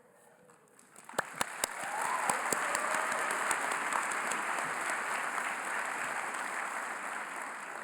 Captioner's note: applause